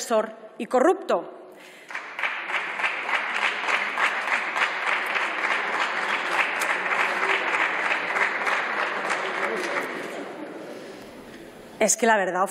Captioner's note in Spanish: Aplausos.-Rumores